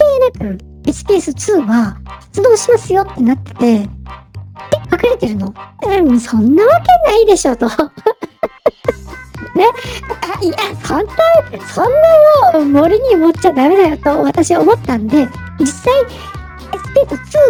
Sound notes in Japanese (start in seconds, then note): 7.7 笑い